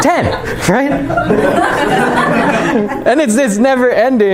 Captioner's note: laughter